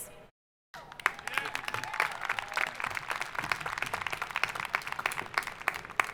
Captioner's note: audience applauding